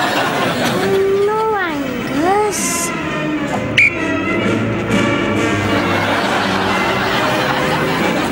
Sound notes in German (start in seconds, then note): 3.7 Pfeife trillert